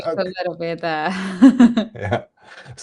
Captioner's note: laughs